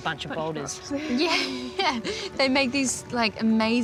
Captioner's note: laughs